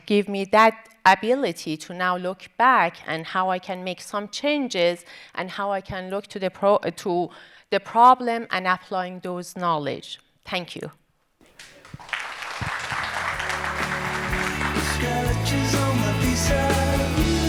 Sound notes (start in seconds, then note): 11.5 audience applauding